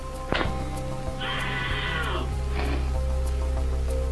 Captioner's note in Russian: сильный крик